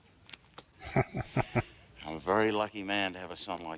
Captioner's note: chuckling